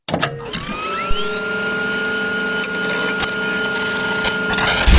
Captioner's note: equipment whirring